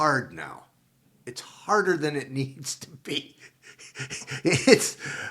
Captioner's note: laughs